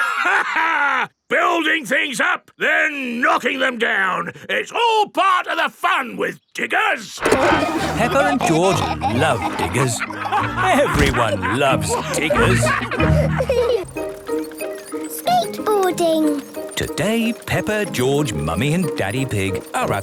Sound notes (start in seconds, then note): 0.1 laughs; 7.8 peppa and george laughing